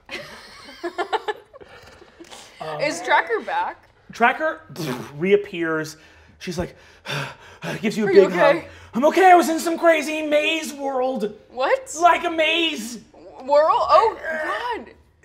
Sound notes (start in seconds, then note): 0.0 players laughing; 6.9 panting